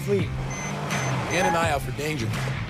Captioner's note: beeping